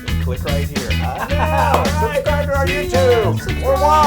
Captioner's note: laugh